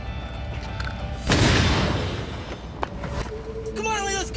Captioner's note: gunshot